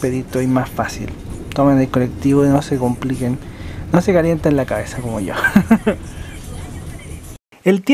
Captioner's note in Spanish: risas